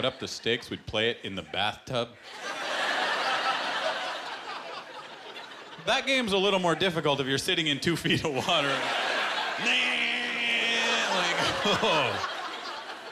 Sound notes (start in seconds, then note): 2.2 laughter